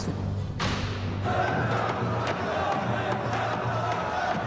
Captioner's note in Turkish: Kalabalık konuşma sesi